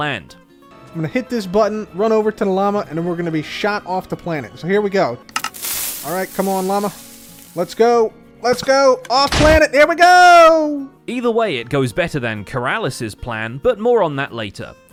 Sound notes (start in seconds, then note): 5.3 dispensers trigger, TNT sizzles